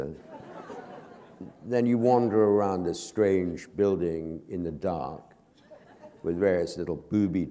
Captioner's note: laughter